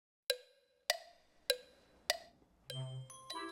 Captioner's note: clock ticking; light-hearted music